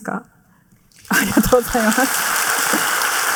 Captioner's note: applause